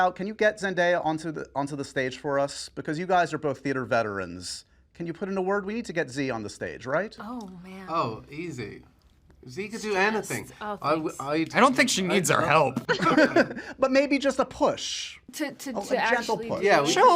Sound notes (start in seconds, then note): 12.8 laughter